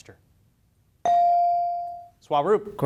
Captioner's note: beep